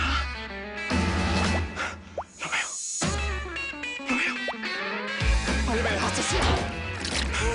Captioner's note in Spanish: Susurra